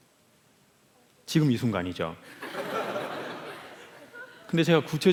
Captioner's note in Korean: 웃음